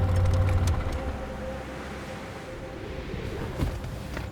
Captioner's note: wind whooshing